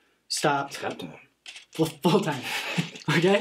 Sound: Danny Joe laughing; Mr. Root laughing

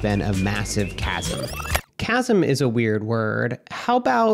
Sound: tape rewinding

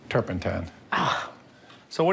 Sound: scoffs

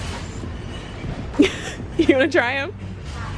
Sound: laughs

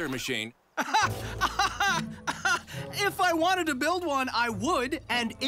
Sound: laughs sarcastically

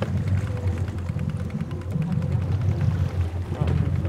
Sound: reel cranking

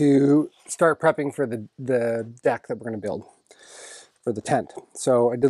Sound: inhales

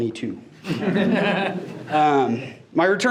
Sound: board members laugh

